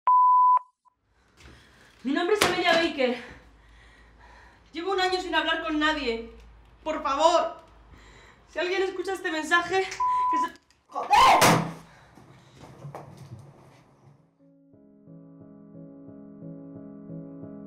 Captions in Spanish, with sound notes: (pitido) Mi nombre es Amelia Baker. Llevo un año sin hablar con nadie. ¡Por favor! si alguien escucha este mensaje... (pitido fin de mensaje) ¡Joder!